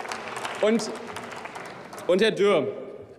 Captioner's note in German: Beifall